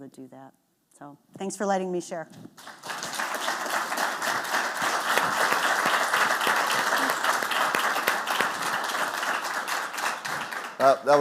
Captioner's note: clapping